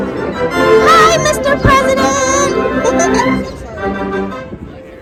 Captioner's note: laughs